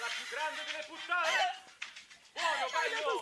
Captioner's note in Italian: TV: Alla più grande delle putt